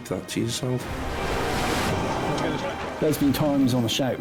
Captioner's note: waves crashing